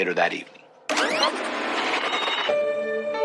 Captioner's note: tape scscreechingng; sususpensefulul music